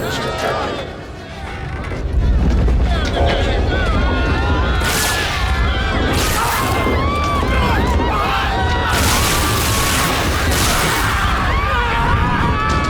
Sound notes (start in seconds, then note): 4.3 screaming; 4.7 zap; 8.9 firing lasers; 9.3 screaming